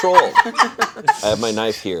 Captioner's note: laughing